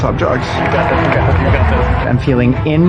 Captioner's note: applause